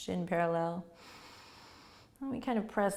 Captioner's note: inhaling